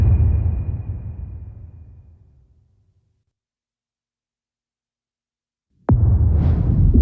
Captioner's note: dramatic sound